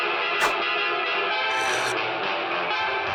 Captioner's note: slurping